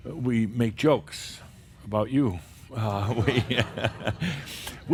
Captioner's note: some laughter